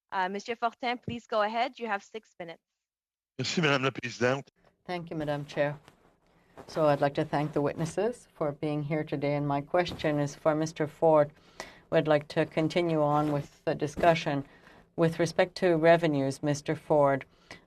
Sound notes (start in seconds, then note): 7.6 speaking in French